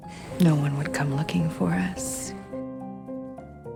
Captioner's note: voiceover